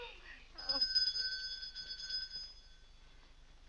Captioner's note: Cora laughs; bell rings